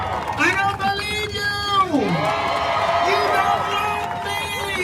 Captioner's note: crowd cheering